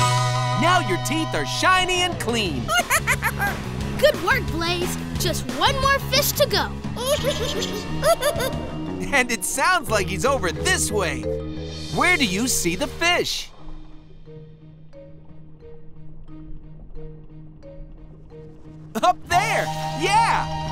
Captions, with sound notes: Now your teeth are shiny and clean. Good work, Blaze! Just one more fish to go. [squeaking] And it sounds like he's over this way. Where do you see the fish? Up there, yeah!